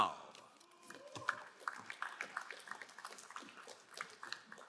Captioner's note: crowd applauding